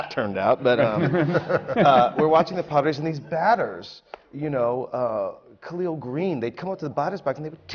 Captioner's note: laughter